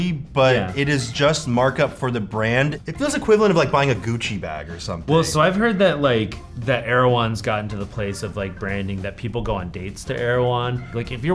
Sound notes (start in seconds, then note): none